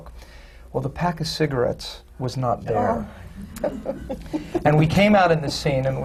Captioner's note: murmurs of horror and sympathy from the panel